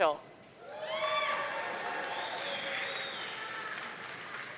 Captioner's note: audience cheering